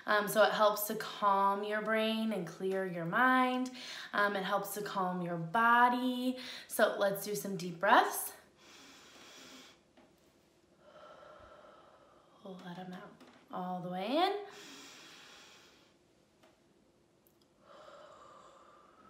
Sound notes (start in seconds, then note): 8.6 exhales; 8.6 inhales; 14.5 exhales; 14.5 inhales